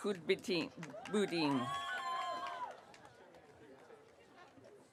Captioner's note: audience cheering